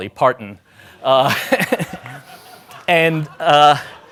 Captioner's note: laughing